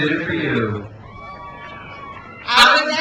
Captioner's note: crowd cheers